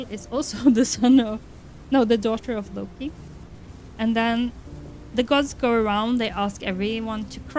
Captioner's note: laughs